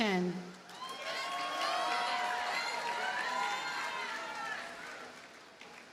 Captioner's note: audience cheers and applauds